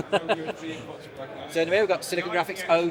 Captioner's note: laughing